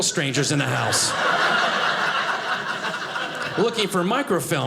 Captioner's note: audience laughing